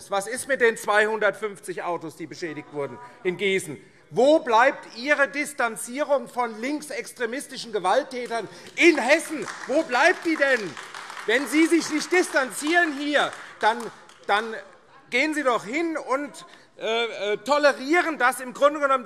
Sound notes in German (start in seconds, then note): 9.9 Beifall AfD